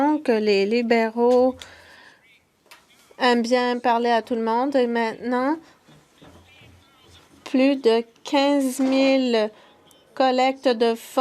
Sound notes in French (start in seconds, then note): 4.7 voix de l'interprète